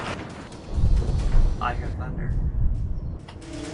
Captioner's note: thunder